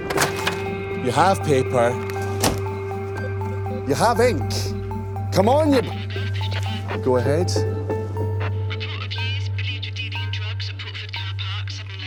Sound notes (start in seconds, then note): 4.6 radio – muffled voice